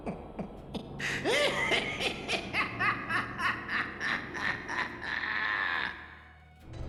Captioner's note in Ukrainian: огидний смішок; сміх, як у божевільного